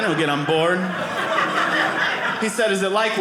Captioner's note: audience laughing